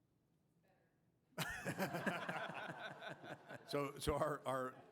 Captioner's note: laughter